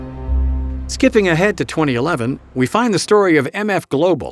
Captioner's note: voiceover